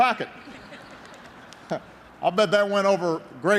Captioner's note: laughter